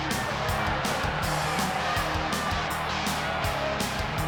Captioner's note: crowd shout